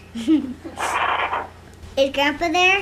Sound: giggles

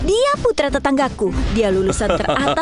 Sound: Bagel chuckles

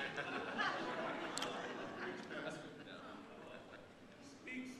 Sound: audience laughing

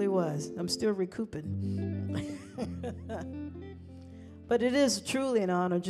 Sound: chuckling

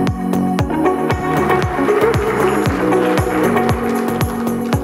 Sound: applause

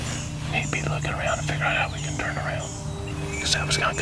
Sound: whispering

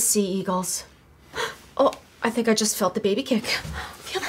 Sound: gasping

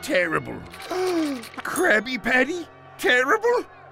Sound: gasps

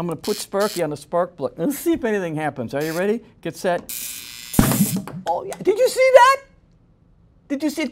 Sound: popping noise

